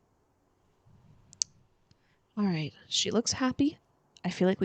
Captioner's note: clicks tongue